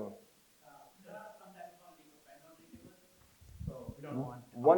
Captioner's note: crowd member speaks softly